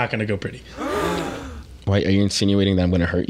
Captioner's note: people gasping